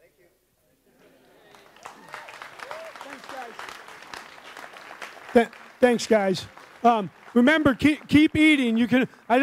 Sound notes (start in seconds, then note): 1.2 audience applauds